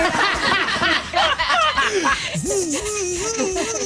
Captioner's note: laughs